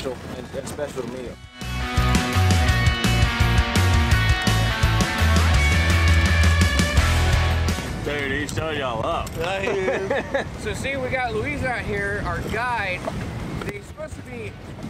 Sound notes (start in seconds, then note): 1.4 rock music; 9.5 laughter